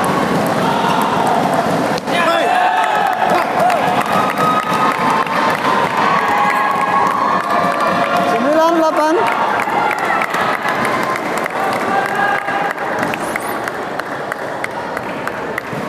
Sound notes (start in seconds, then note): 2.6 applause; 12.6 applause